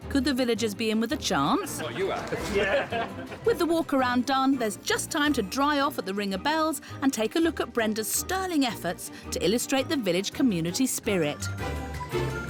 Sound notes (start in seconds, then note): 1.7 laughs